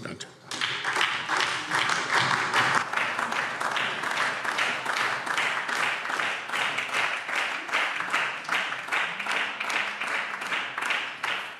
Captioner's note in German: Beifall SPD und DIE LINKE